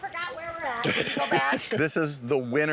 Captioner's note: laughs